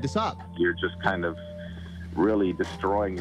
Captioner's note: Ed on radio